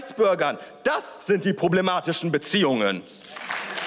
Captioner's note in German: Beifall